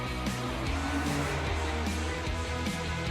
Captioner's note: vehicle swooshing; bright upbeat music